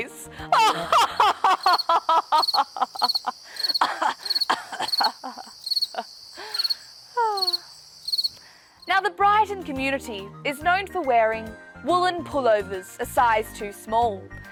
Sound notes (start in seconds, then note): 0.5 laughs; 2.7 cricekts chirp